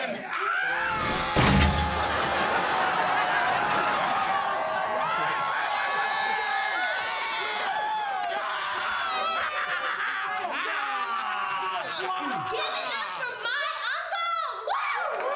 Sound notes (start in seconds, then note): 0.2 screaming; 1.0 crashing; 2.1 laughing; 4.4 cheering; 8.7 laughing